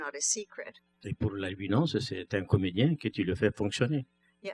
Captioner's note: speaking french